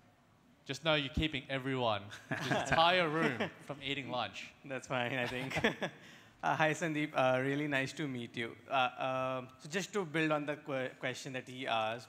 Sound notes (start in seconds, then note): 5.2 giggles